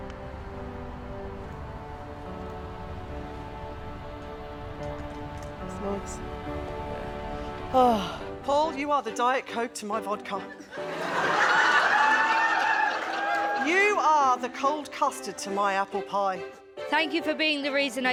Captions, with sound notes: That's nice. (sighs) - Paul, you are the diet coke to my vodka. (guests laughing) You are the cold custard to my apple pie. - Thank you for being the reason,